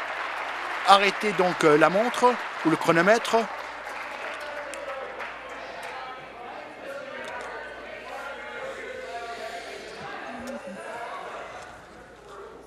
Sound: applause

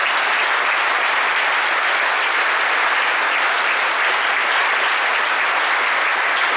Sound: applause

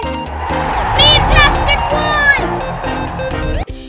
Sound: crowd Cheering

